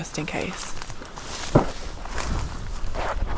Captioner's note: pop